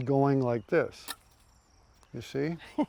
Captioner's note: laughs